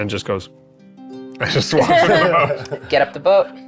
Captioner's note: players laughing